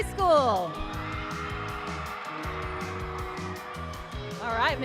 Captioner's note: applause and cheering